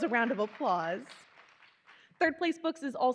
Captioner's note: attendees applauding